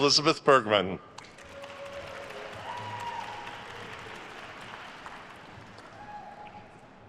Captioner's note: attendees cheering and applauding